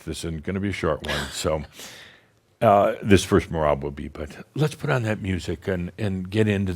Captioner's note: chuckles